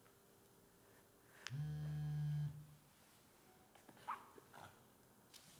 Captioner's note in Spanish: Vibración móvil